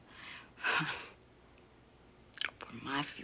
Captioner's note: chuckles nervously